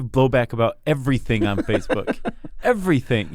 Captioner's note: laughs